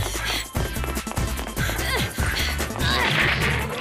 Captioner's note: grunt